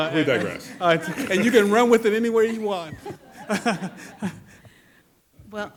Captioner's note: laughs